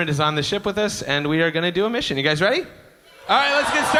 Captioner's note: cheers